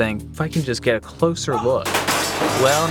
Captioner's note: crashing